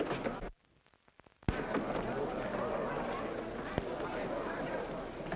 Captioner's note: people chattering